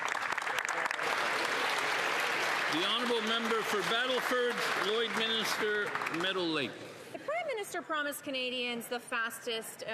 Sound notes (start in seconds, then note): 5.9 applause